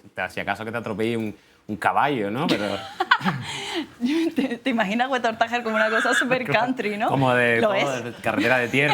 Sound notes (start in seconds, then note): 2.8 laughing